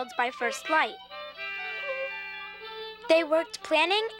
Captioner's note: horn blowing